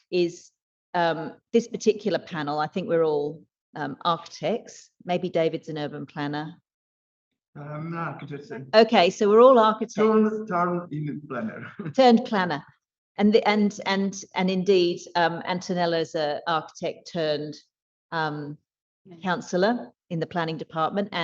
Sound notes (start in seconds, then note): 9.9 laughs; 10.1 faintly speaks